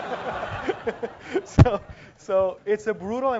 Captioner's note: laugh